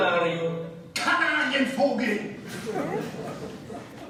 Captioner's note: speaking Spanish; speaking German; laughter